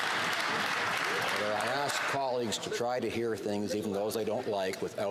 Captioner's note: some Applause